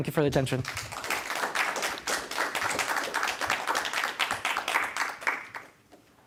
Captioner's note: audience applauds